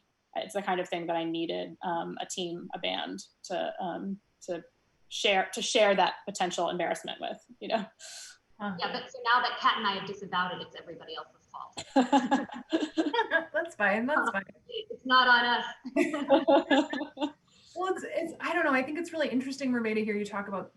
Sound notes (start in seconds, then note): 11.8 loud laughs; 15.9 loud laughs